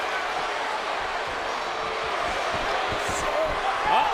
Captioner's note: crowd cheering